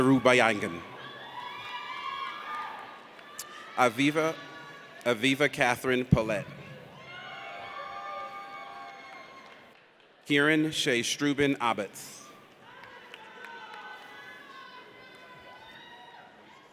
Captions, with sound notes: (audience cheers) Aviva Katherine Pollet. (audience cheers) Kieran Shay Struebin Abbots. (audience applauds)